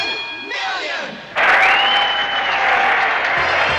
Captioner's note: crowd cheers